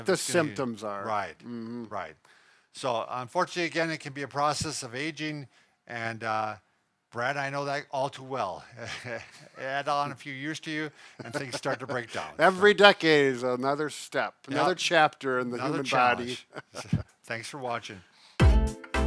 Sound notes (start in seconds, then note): 8.8 chuckles; 15.8 chuckles